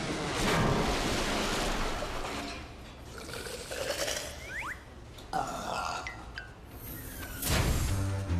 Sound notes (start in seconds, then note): 5.3 burping